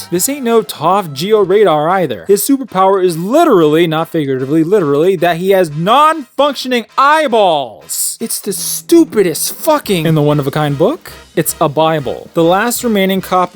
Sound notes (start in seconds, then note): none